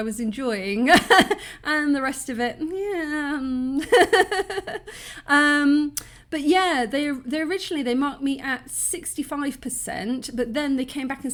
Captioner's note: laughing